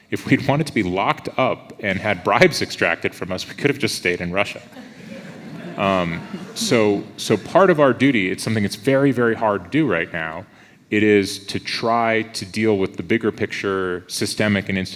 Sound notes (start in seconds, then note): 4.6 audience laughs